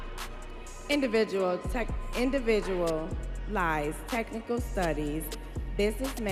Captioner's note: students cheering